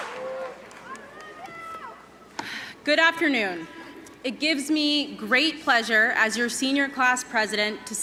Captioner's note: cheers and applause